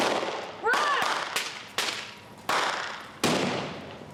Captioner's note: guns shooting; explosives blasting